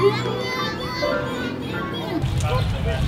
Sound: talking into wine glass

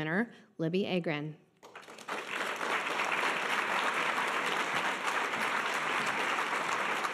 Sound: audience applause

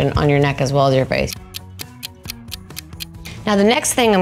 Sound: clock ticking

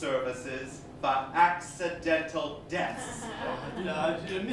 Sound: laughter

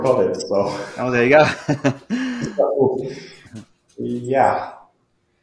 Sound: chuckling

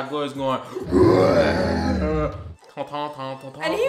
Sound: growls

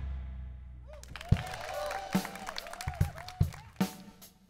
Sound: applause

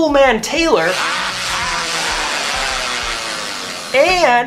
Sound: drill noise

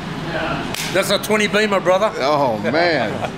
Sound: hands smacking

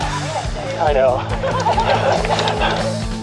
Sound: laughing

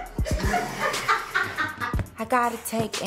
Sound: laughter

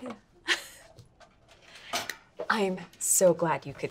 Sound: laughing

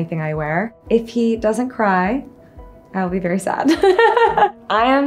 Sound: giggles

